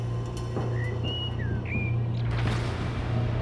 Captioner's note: bird chirps